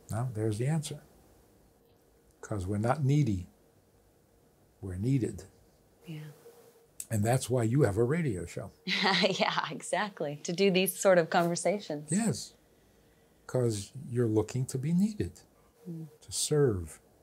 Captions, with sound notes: Now there's the answer, because we're not needy. We're needed. And that's why you have a radio show. - (laughs) Yeah, exactly. To do these sort of conversations. - Yes, because you're looking to be needed to serve.